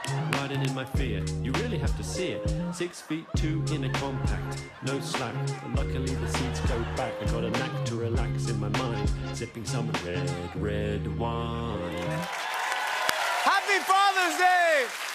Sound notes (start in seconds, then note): 9.9 Electronic voice; 11.9 cheering and applause